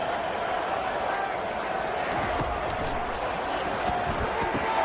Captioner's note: crowd Noises